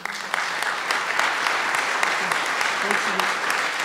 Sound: applause

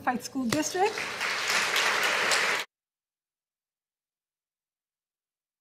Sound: audience applauding

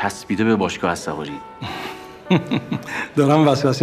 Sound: laughing

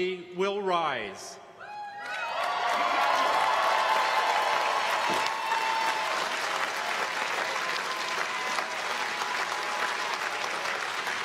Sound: cheers and applause

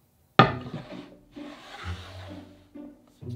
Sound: board sliding

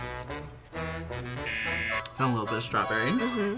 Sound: buzzer

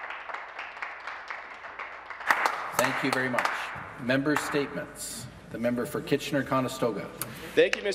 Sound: some Applause

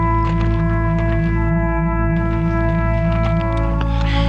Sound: dreary trumpet music; footsteps crunch

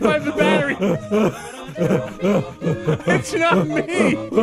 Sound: laughing; deep throat sounds; laughing

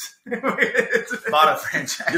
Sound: man laughing

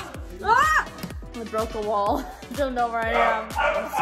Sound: yells

